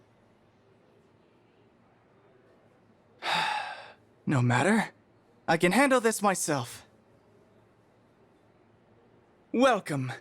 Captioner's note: deep breath